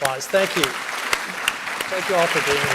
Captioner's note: audience clapping